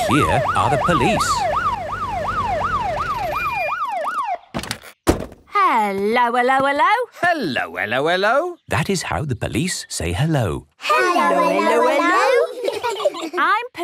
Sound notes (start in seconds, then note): 4.6 siren stops; 11.3 children giggle